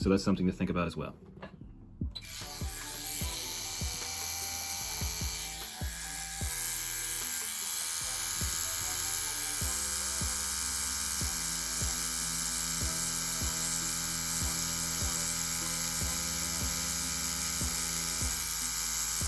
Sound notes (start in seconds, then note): 2.4 tattoo machine buzzing; 6.3 light music